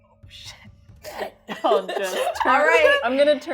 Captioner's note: laughing